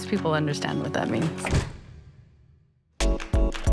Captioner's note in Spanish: sonido de puerta cerrándose